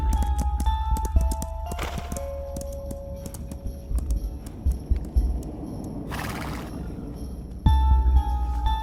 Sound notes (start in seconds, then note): 6.1 neighing